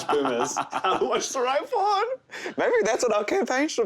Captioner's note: laughing